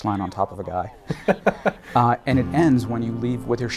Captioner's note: laughs